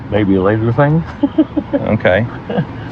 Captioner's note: giggles